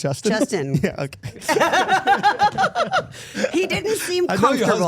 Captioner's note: everyone laughing